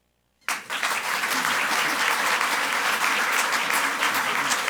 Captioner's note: audience applauds